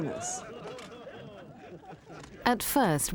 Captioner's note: crowd laughing